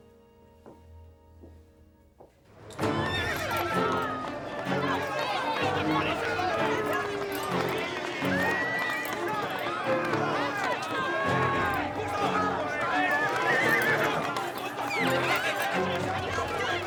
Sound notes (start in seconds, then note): 0.1 heels clack; 2.7 horse neighs and trots